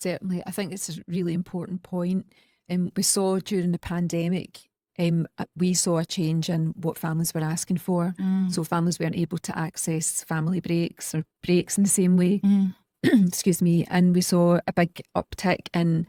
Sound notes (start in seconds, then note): 13.0 coughs